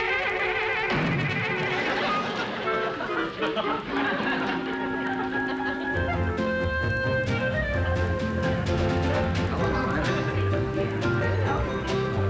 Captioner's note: door slamming